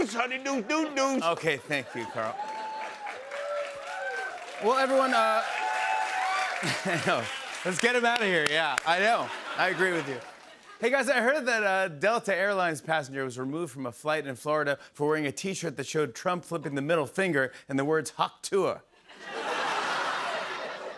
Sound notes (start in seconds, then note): 2.5 cheers and applause; 6.6 laughs; 19.0 laughter